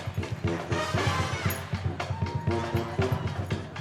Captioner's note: cheers and applause